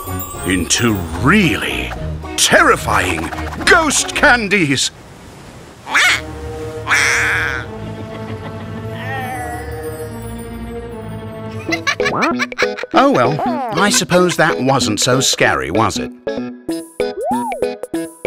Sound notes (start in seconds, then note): 6.9 Fred's evil laughter; 11.6 laughing